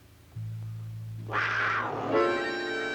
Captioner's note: snarling